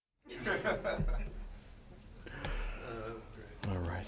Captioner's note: people laughing